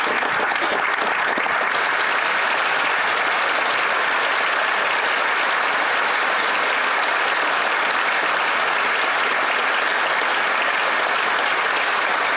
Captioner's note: applause